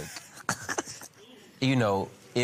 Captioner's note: Judge Lynn snickering